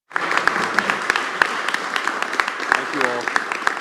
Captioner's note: applause